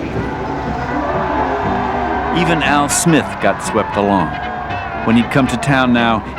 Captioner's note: crowd Cheering